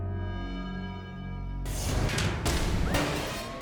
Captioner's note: logo swooshing